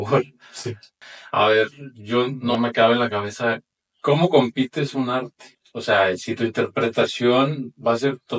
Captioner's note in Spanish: carraspeo